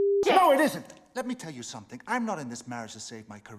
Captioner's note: none